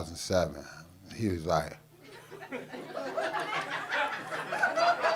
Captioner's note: audience laughing